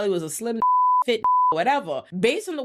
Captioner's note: beep